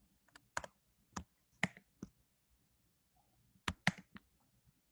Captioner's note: typing